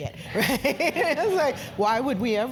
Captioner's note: laugh